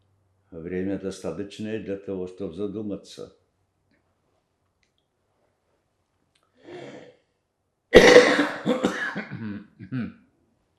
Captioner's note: coughing